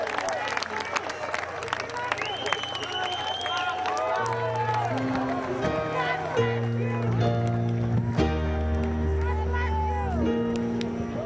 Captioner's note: cheers and applause